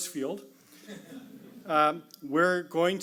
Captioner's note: audience laughs